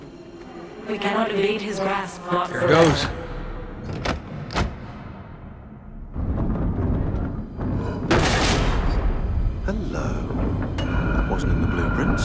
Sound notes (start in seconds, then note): 6.1 mechanism moving